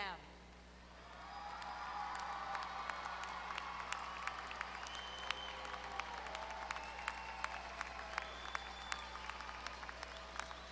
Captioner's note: applause